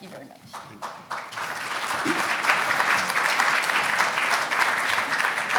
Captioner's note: audience applauding